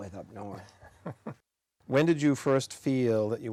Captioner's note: giggles